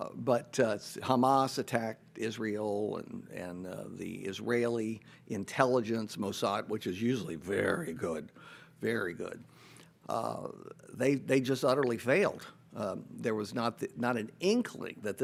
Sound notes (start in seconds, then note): none